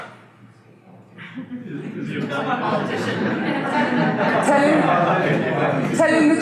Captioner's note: audience laughter